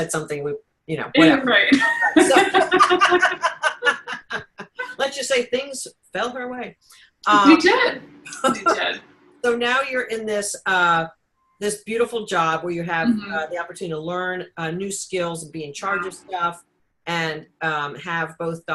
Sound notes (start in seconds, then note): 1.7 both laughing